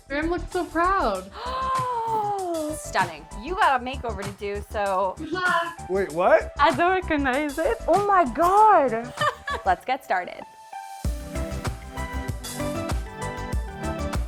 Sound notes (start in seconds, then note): 1.3 gasps; 9.0 laughs; 11.4 bright music